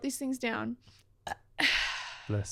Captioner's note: burps